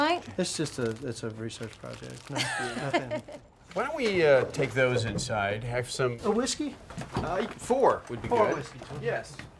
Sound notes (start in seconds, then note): 2.4 laughs